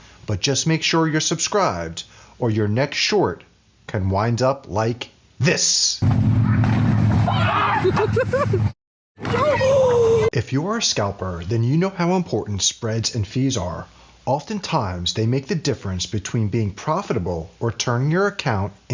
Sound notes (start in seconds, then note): 6.0 machine humming; 7.2 yelling and laughing; 9.8 gasping